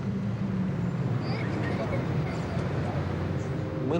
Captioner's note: children giggling